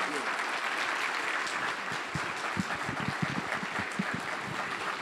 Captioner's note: audience applauds